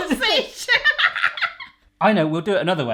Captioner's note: laughing hysterically